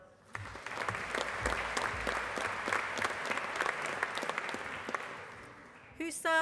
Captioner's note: applause